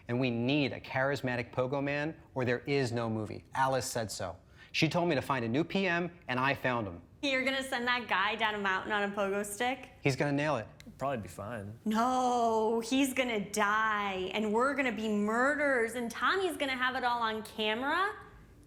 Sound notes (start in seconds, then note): none